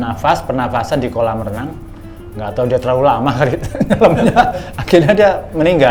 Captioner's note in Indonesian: tertawa